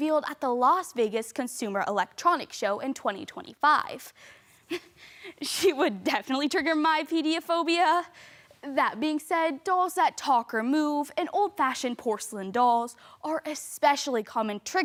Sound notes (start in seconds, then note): 4.9 quick inhale